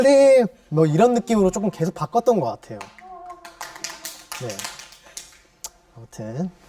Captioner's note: round of applause